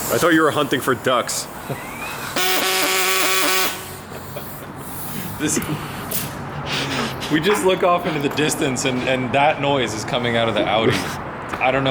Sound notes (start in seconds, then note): 2.2 saw buzzes; 4.0 laughs